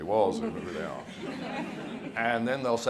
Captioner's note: audience laughs